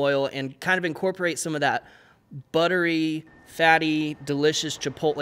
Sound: none

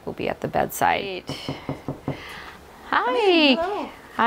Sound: knocking

